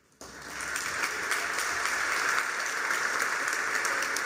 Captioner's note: applause